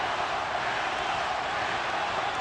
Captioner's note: loud cheering